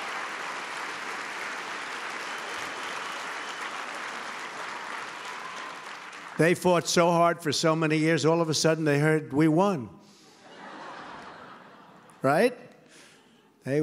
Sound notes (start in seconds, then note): 0.0 applause; 10.3 laughter